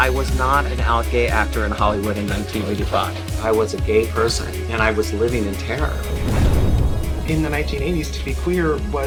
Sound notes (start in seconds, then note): 5.8 thunder rumbling